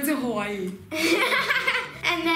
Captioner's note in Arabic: يضحك